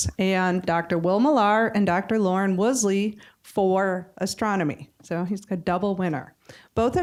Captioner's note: none